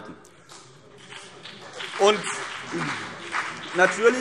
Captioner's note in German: Beifall CDU und BÜNDNIS 90/DIE GRÜNEN